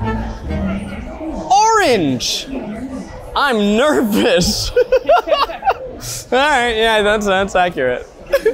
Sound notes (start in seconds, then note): 4.1 laughs